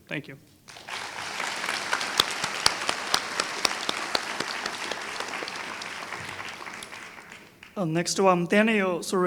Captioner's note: applause